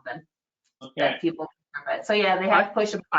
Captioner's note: distorted audio